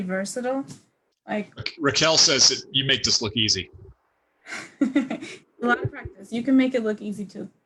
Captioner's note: chuckles